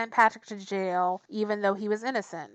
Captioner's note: none